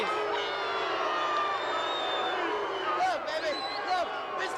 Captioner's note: crowd booing